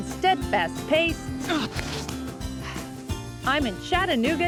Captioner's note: grunts